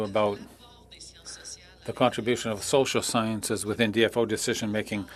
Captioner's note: speaking French